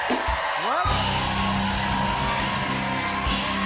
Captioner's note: cheering